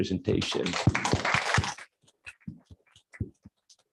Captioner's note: applause